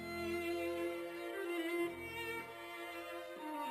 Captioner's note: none